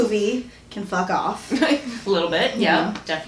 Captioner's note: laughs